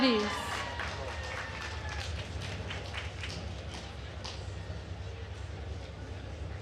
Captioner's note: attendees cheering and applauding